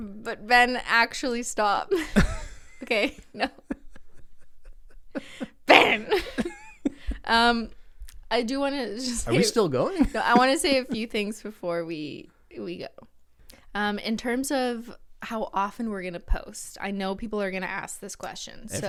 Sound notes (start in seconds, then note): 2.8 laughs